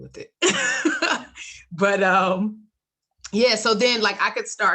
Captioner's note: laughs